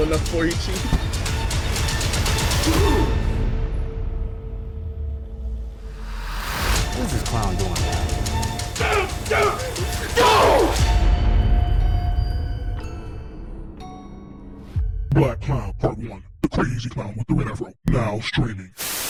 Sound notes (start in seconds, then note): 2.0 dramatic menacing music; 8.8 Ramint shrieking; 12.5 gentle menacing music